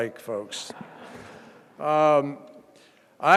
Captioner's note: laughter